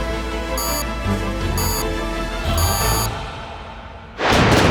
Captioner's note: three beeps